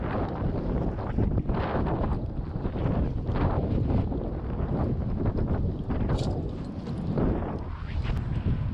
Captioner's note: wind blowing